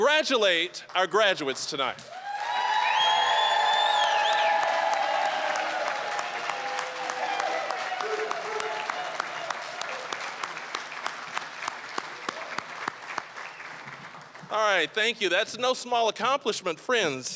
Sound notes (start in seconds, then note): 2.0 applause, cheering, whistling; 13.3 applause